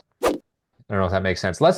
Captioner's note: image whooshing